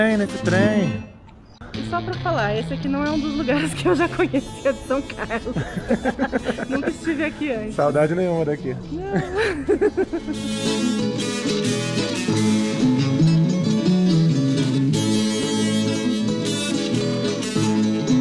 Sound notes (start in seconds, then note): 4.6 laughs; 9.9 laughter